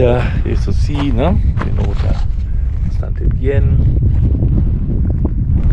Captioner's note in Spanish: viento